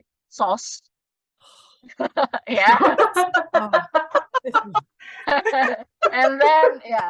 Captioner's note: just groans and we all laugh at that